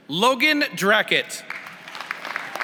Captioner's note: applause